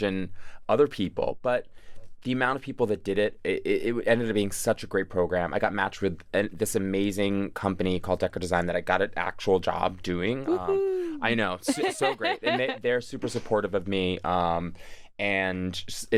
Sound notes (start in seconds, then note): 11.7 laughs